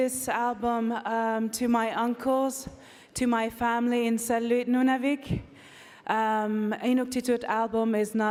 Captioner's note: speaking French